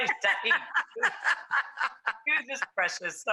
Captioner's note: laughs